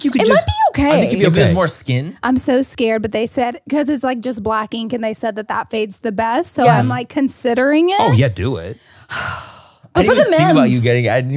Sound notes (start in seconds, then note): 9.0 Laura sighs